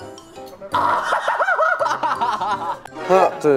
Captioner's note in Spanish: ¡Ahahahaha!